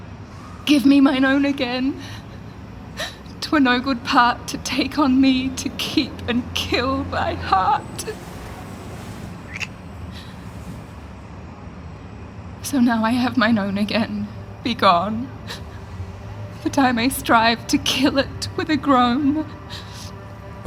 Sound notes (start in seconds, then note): 9.3 kiss; 15.5 crying